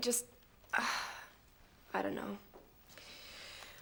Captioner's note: sighs